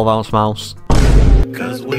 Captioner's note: boom